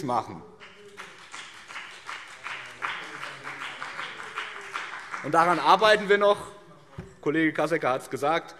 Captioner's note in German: Beifall BÜNDNIS 90/DIE GRÜNEN